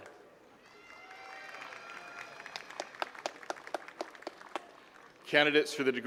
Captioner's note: attendees cheering and clapping